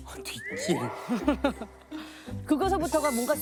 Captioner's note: sob